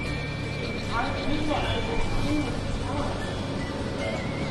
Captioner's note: crowd noise from the bar